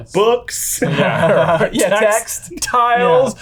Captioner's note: laughs